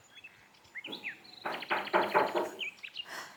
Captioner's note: knocking